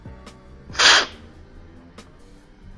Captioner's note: slurping